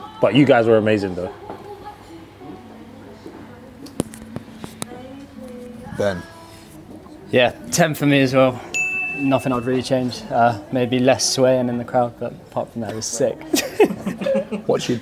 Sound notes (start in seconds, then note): 8.7 bell chimes; 13.4 guys laugh